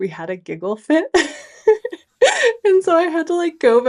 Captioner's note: laughing